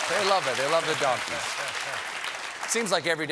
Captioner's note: applause